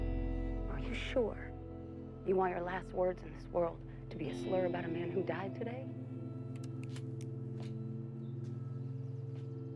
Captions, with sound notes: Are you sure you want your last words in this world to be a slur about a man who died today? ( trigger clicks )